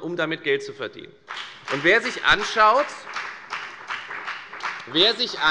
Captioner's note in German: Beifall bei der FDP